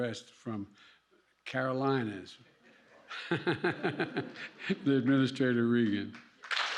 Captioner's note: laughs